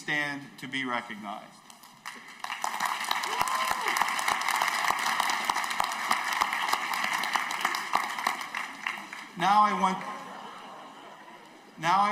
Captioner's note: applause